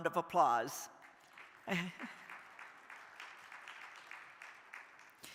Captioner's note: crowd applauding